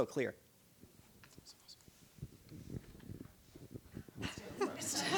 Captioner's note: whispering; laughter